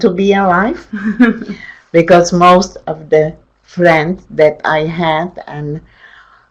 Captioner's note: chuckles